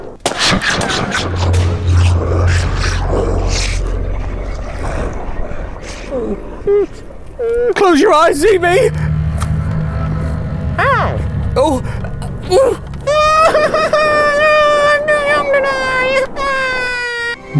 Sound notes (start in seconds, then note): 5.4 zb whimpers; 12.4 whimpers